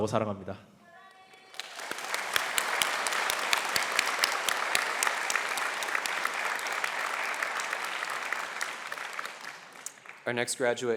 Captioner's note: applause